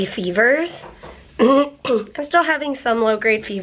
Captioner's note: clears throat